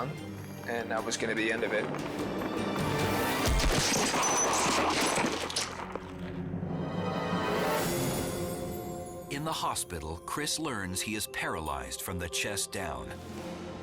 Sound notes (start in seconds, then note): 3.4 body slams